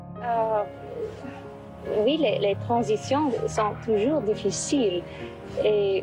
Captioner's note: Princess Grace Kelly speaking French